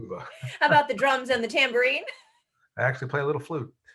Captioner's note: laughs; chuckles